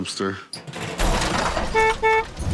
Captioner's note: horns honking